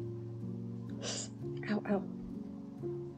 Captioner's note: gasp